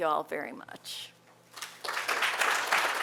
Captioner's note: applause